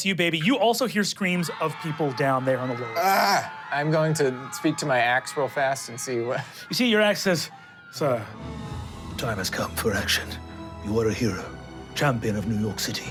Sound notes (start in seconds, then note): 1.3 people screaming; 7.9 slow inspirational music